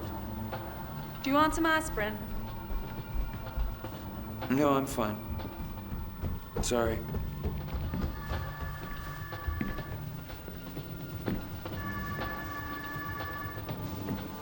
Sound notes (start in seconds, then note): 8.2 phone rings